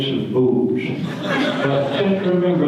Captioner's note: audience laughter